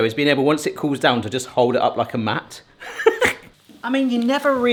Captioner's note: laughs